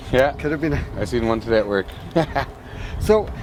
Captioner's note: laughs